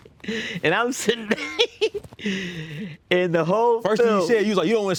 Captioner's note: laughs